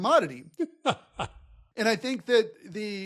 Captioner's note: laugh